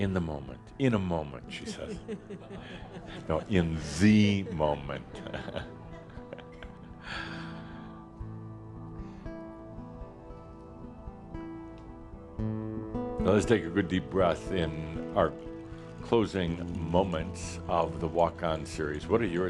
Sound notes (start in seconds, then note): 1.5 chuckles